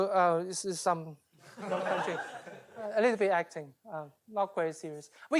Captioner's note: laughter